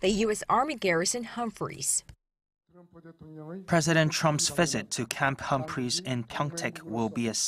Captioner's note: Korean